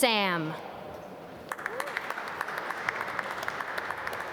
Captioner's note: applause